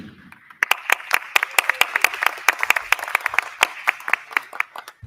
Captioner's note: crowd clapping